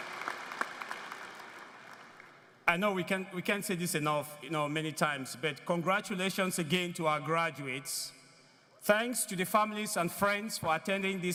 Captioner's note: applause